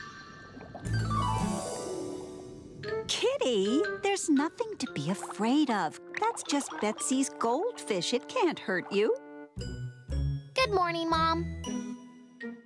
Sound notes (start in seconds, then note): none